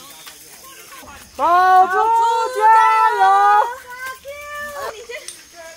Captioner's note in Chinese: 各種加油聲